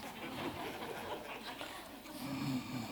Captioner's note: laughter